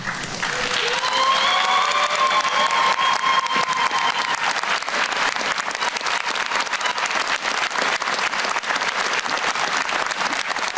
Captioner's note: applause